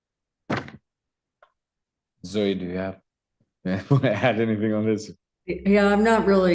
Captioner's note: laughs